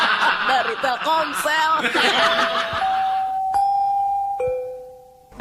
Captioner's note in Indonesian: tertawa